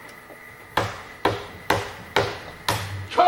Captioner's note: podium smacks